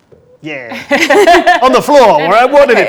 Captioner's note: group laughs